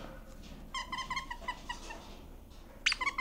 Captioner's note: toy squeaks